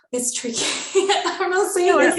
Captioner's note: laughter